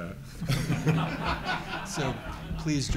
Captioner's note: laughs